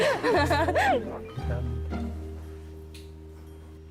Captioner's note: chuckles